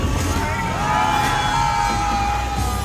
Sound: people screaming

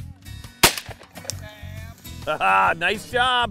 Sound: gun firing

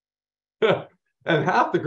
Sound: chuckling

